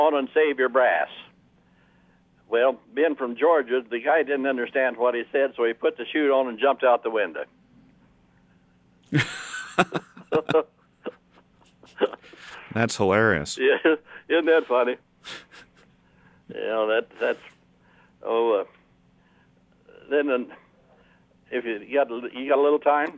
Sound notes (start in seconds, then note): 9.1 both laugh